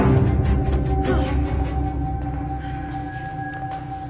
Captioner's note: Lisa breathing heavily